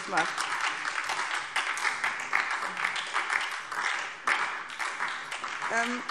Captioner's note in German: Beifall SPD und DIE LINKE